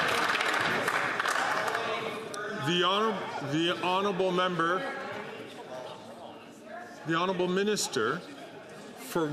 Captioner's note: some Applause